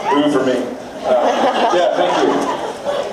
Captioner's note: laughs